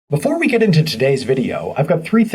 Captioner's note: voiceover